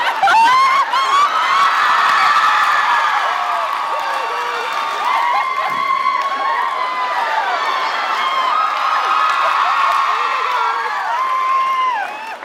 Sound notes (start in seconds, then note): 0.1 laughs, cheers; 5.6 thunk; 6.6 laughs, cheers